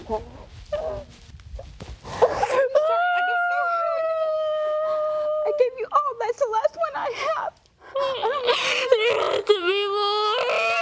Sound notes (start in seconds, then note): 2.3 sobbing